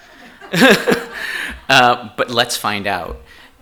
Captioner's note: chuckles